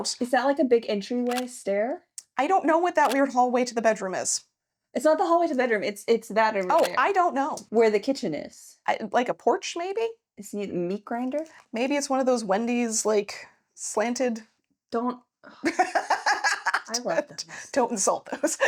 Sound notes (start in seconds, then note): 15.6 laughing